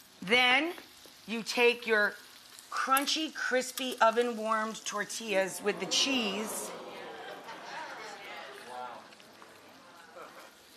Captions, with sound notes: Then, you take your crunchy crispy oven-wamred tortillas with the cheese... (audience exclaims)